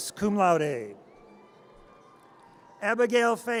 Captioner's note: audience cheers